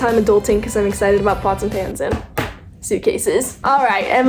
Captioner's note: knocking